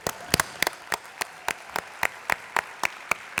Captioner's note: applause